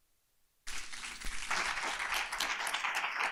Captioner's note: applause